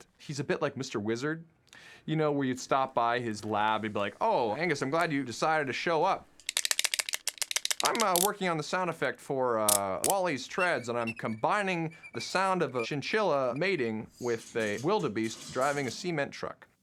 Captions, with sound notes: He's a bit like Mr. Wizard, where you'd stop by his lab. He'd be like, "Oh, Angus, I'm glad you decided to show up. (CLACKING) "I'm working on the sound effect for WALL-E's treads, (CLICKING) (SQUEAKING) "and I'm combining the sound of a chinchilla mating "with a wildebeest driving a cement truck."